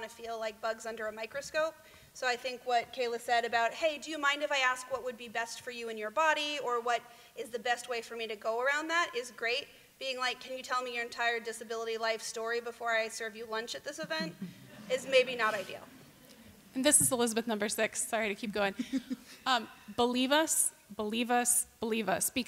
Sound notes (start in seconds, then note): 16.0 laughter